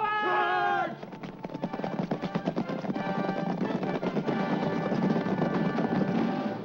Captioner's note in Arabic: ضربات حوافر; موسيقى تشويقية